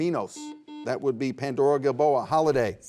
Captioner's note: buzzer buzzes